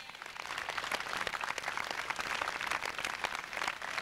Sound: applause

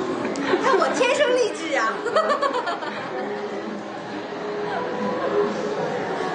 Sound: laugh

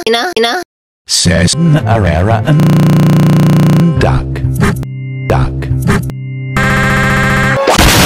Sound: glitch

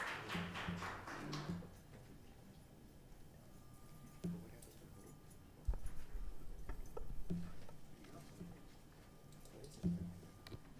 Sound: applause

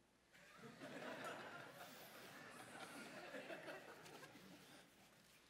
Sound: audience laughs

